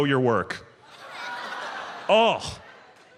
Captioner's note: audience groans